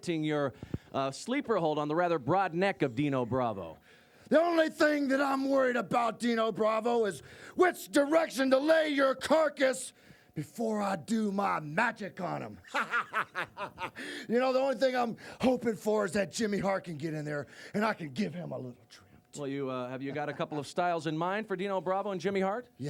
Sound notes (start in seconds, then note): 12.2 cackles